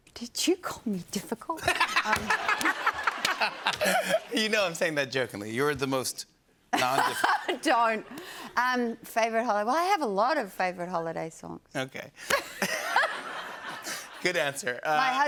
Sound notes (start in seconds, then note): 1.6 laughter; 12.3 laughter